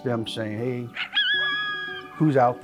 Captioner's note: coyote howls